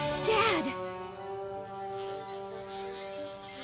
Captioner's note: buzzing noise